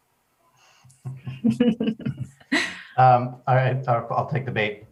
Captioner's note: laugh